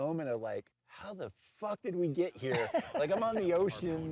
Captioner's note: chuckles